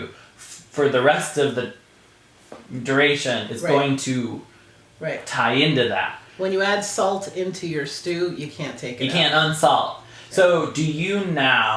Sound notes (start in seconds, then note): none